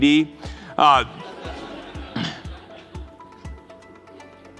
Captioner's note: laughter